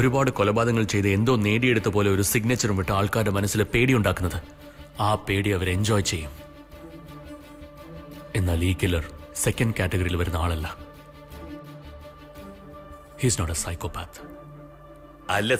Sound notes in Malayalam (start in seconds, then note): none